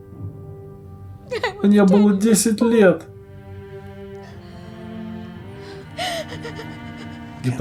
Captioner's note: sobs